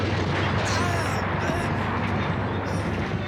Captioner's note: grunts